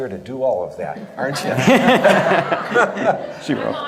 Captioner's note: all laugh